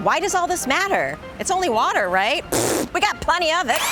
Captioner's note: buzzes lips; drill whirring